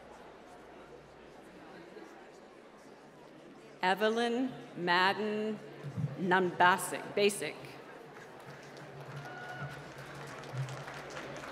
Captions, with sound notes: Evelyn Madden, Nunbasik. (applause)